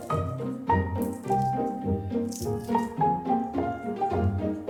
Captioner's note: crunch of dry catnip